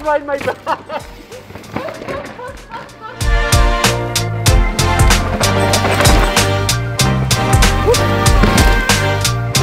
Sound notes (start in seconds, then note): 0.4 laughing; 2.4 upbeat music